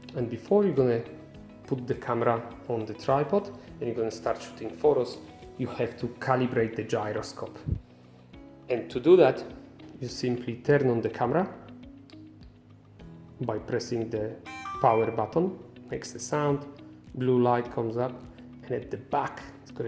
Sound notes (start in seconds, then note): 14.5 sharp sound